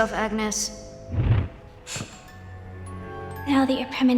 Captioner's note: air whooshing; Wednesday gasping